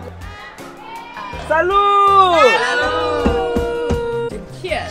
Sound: cheers

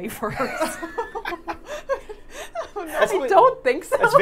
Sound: all laughing

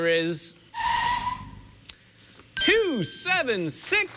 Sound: tires screeching

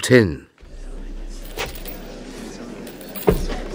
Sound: footsteps mounting steps onto a wooden platform. The clanking of chains

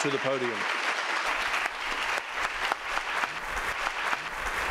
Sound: audience applauding

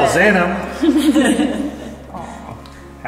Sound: laughs

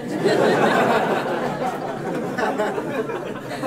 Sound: laughter

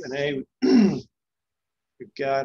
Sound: clears throat

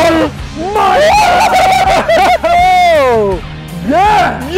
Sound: both cheering

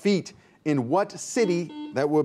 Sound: buzzer beeps

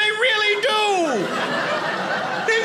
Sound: audience laughing

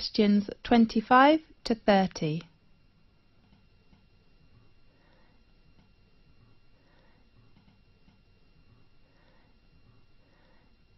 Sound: 5 seconds pause

